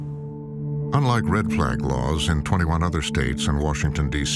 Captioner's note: none